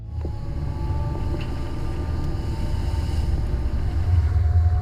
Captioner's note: boat engine roars